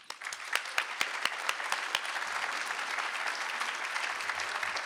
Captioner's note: applause